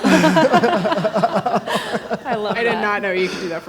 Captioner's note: everyone laughing